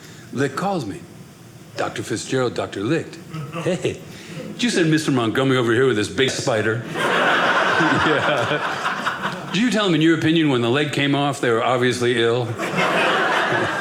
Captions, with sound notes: Licht calls me, "Dr. Fitzgerald," Dr. Licht. Hey. "Did you send Mr. Montgomery "over here with this big spider?" (audience laughing) Yeah. "Did you tell him, in your opinion, "when the leg came off, "they were obviously ill?"